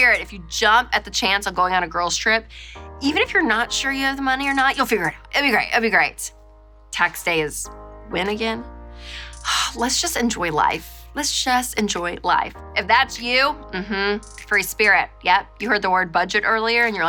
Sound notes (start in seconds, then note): 9.2 sighing